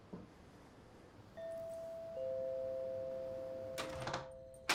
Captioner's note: doorbell rings